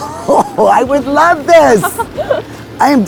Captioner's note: laughing